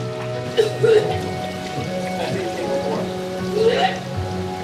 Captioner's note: speaking foreign language; coughing; somber music